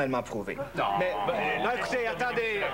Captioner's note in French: Brouhaha